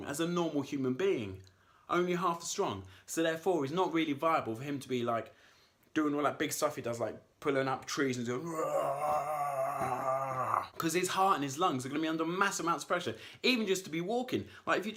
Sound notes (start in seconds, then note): 8.4 roars